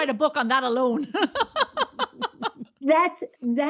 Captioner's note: laughs